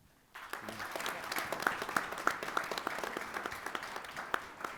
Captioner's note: people applauding